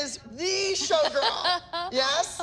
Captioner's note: laughing